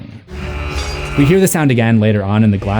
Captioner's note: buzz buzz